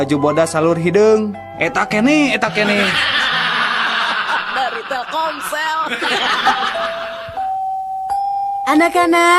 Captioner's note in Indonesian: tertawa